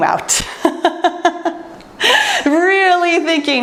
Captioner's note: laughs